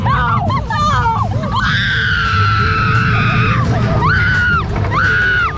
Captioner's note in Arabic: صراخ